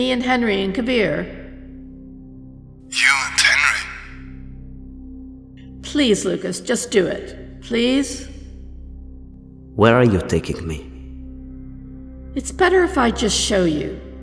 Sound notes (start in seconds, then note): 2.9 radio voice